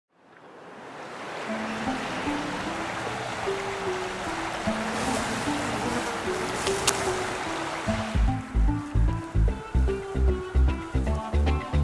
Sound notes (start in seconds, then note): 0.0 sounds of river in the woods; 4.2 insect flies past